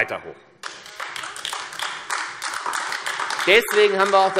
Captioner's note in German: Beifall AfD